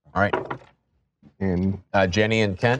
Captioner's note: dice rolling